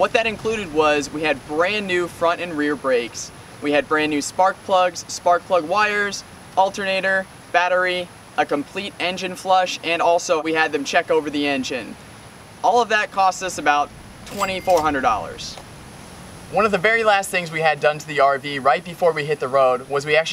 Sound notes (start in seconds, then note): 14.2 cash register ding